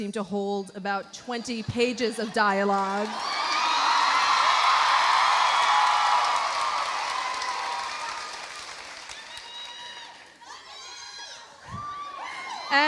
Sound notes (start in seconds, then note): 2.7 audience applauding; 2.8 audience cheering